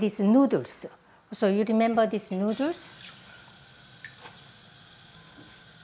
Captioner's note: water sloshing